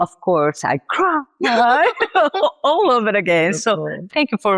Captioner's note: laughs